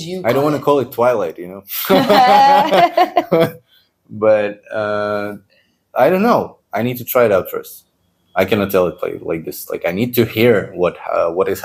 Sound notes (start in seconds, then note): 1.8 laughs